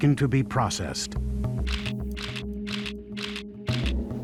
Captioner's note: camera shutters click